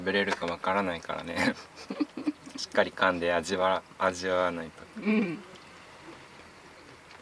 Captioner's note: laughs